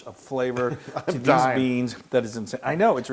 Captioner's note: laugh